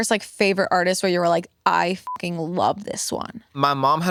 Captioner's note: beep